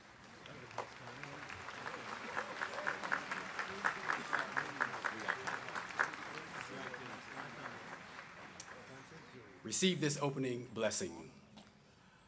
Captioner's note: applause